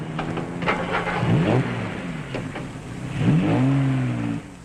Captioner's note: engine revving